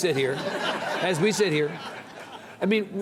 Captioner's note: audience laughs